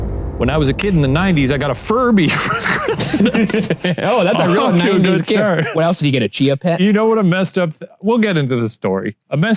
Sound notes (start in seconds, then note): 2.2 laughs